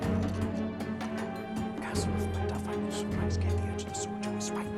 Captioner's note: whispering